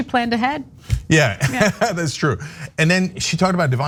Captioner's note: laugh